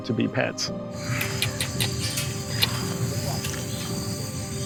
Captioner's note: kissing sounds